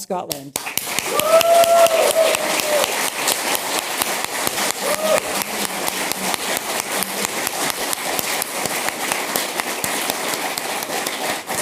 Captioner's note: applause